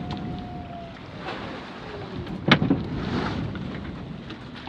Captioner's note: water splashing